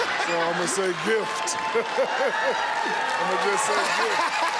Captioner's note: laughter; chuckles; laughs